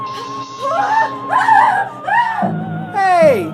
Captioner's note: screams